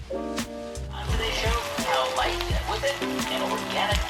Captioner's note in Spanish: podcast sonando de fondo